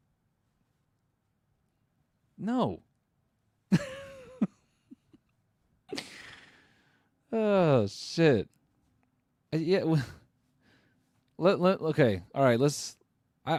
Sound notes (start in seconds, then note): 3.7 laughs; 5.9 sighs; 9.2 stutters